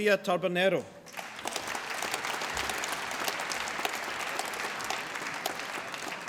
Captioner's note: applause